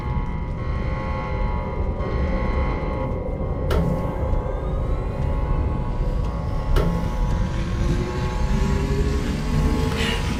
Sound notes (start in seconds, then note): 3.8 спасательный модуль запускается